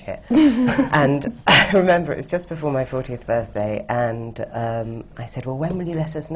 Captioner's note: laughs